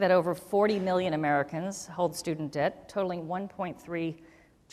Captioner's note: none